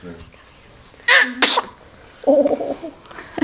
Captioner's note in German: Kurzer Schrei